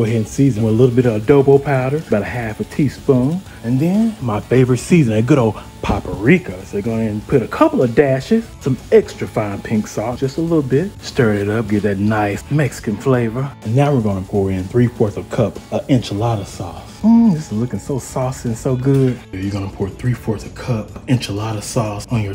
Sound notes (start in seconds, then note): 17.0 moans